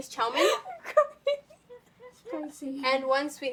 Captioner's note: laughing uncontrollably